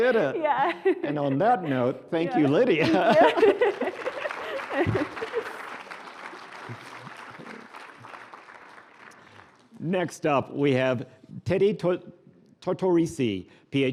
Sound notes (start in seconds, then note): 2.5 laughing; 3.2 applause